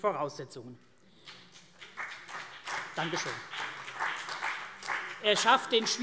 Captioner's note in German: Vereinzelter Beifall CDU und BÜNDNIS 90/DIE GRÜNEN